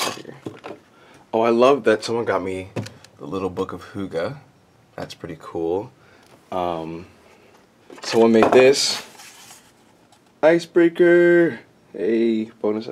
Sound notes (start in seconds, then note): none